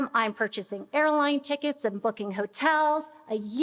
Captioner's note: none